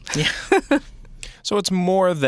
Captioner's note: laughing